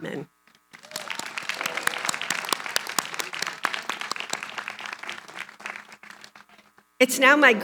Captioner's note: applause